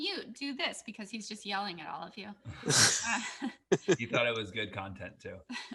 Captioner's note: laughs